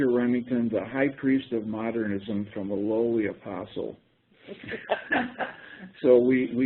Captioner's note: laughter